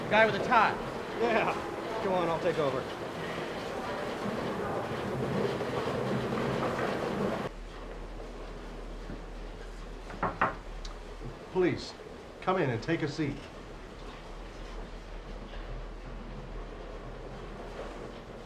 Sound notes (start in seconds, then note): 10.1 knocking